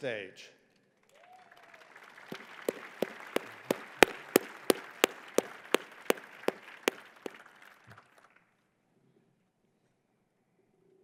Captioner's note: applause